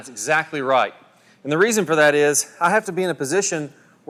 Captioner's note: voiceover